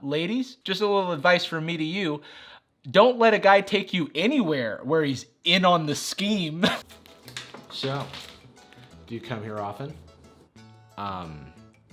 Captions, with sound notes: Ladies, just a little advice from me to you. Don't let a guy take you anywhere where he's in on the scheme. (laughs) So, do you come here often?